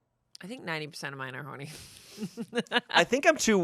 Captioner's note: laughs